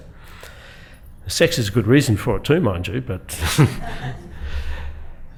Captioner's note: chuckles